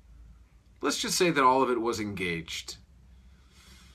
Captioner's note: deep breath